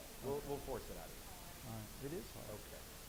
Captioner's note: voiceover